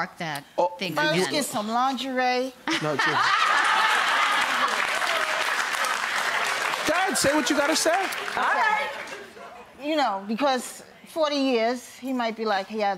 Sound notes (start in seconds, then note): 2.8 audience laughing